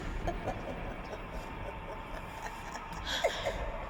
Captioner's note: voice laughing